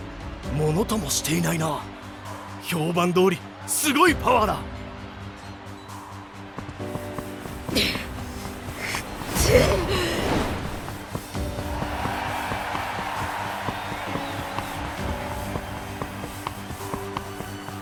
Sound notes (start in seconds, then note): 6.4 grunt; 6.4 hrgh